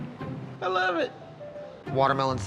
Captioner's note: says sarcastically